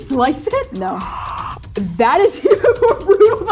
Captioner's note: gasping